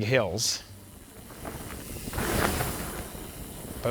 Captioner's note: bike riding past